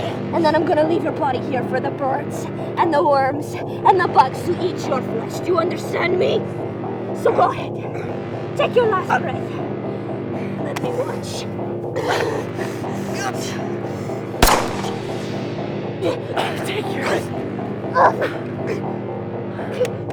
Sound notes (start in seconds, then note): 14.4 gunshot booms; 18.0 suspenseful music